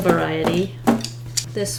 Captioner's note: tap, tap